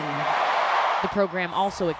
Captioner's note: applause; cheering